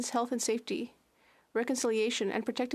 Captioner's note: speaking French